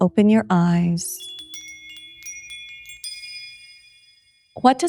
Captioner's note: bells chime